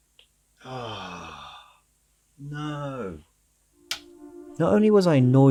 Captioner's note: audible noise of frustration